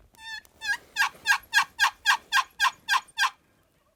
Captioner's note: turkey calling